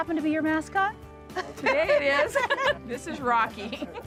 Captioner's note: laughs